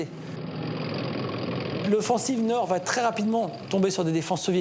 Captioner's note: engines rumbling